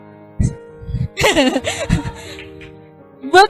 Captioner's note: laughs